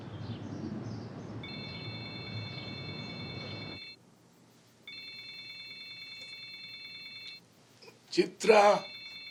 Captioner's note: phone ringing